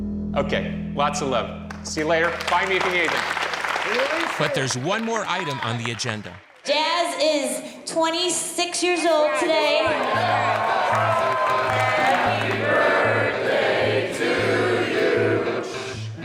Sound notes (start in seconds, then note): 9.2 all cheering